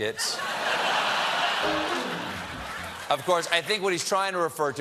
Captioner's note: laughter; piano riff